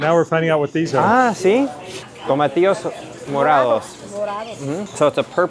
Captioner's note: and shopper speaking Spanish